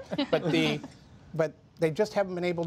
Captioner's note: laughter